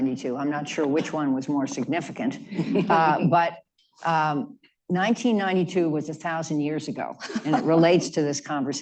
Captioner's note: laughter